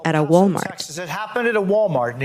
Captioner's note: soundbite of archived recording